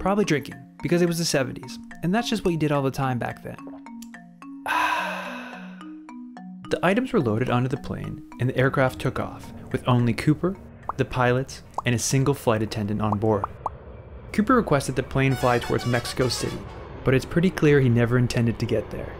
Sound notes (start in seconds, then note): 4.6 sipping noise & relaxing sigh